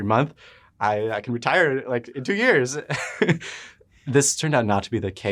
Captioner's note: laughs